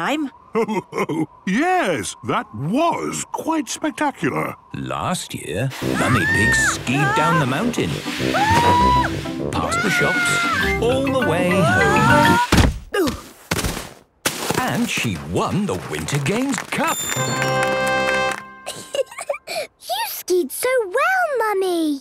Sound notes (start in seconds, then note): 8.3 screaming; 12.3 exclaiming and grunting; 17.0 triumphant music; 18.6 giggling